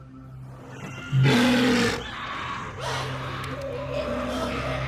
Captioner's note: faint snarls; growls